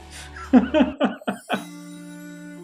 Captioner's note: laughs